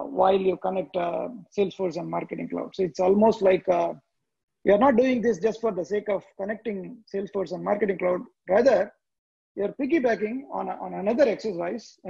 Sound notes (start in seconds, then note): none